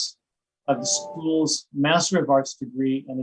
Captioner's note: computer chimes